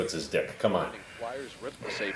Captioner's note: game noise